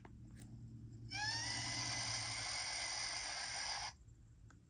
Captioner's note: chicken screaming